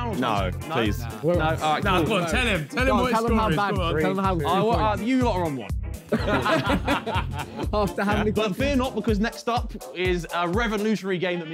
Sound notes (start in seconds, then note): 6.0 men laughing